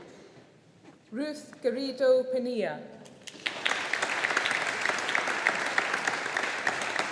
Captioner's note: audience applauding